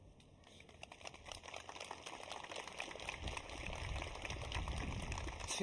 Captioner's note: applause